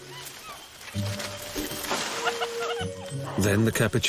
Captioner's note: playful music; leaves rustling